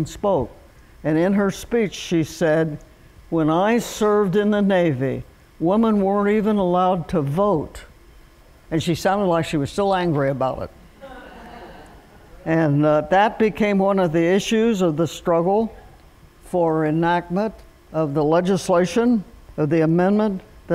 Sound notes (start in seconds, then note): 11.0 laughter